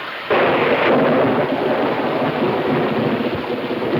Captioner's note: thunder claps